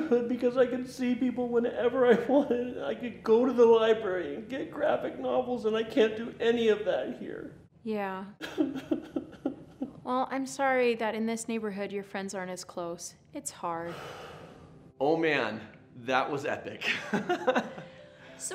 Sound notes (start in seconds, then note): 8.7 weeping; 16.9 laughs